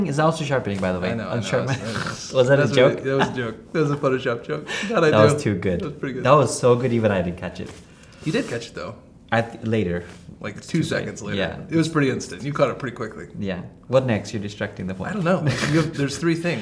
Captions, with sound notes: - Yeah, yeah. Un-sharpening is also sharpening by the way. - I know, I know. - (chuckles) Was that a joke? - That was a joke. That was a Photoshop joke. - That was too good. That was so good even I didn't catch it. - You did catch it though. - Later. - Like two seconds later. It was pretty instant. You caught it pretty quickly. - What next. You're distracting them-- - I don't know.